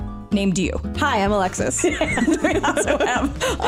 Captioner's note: laugh